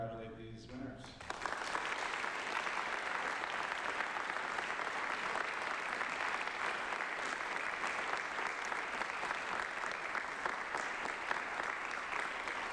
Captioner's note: applause